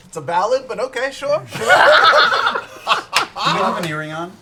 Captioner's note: laughter